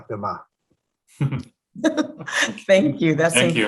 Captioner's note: laughing